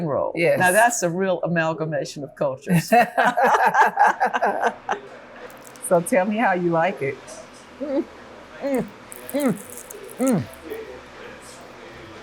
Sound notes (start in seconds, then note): 2.8 laughing